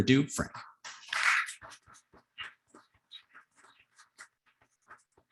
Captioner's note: audience clapping